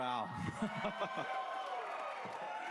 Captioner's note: laughs